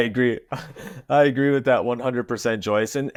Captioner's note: laughing